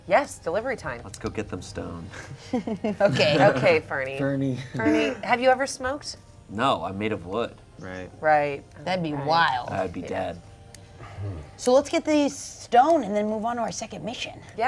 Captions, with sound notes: - Yes, delivery time. - Let's go get them stoned. - (giggles) Okay. - Okay, Fernie. - Fernie. - Fernie have you ever smoked? - No. I'm made of wood. - Right. - Right, - That'd be wild. - right. - I would be dead. - So let's get the stone and then move on to our second mission!